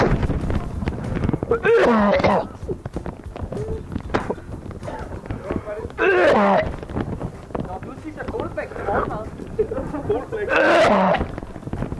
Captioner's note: vomiting